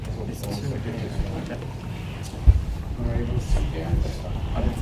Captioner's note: crowd muttering